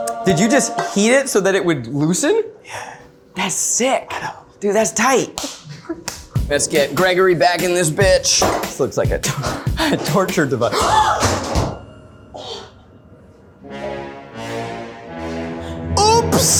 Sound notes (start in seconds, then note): 10.9 gasping; 13.4 dramatic music